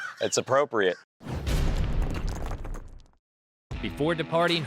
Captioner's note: logo slams